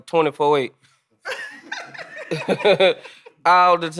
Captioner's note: group laughing